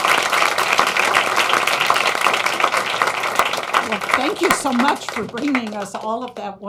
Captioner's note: applause